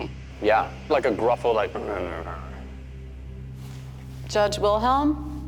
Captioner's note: muttering